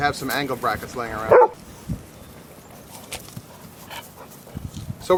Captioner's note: dog barking